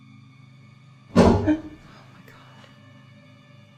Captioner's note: loud bang